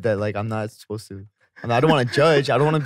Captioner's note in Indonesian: tertawa